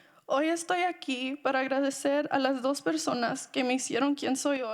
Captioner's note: speaking in Spanish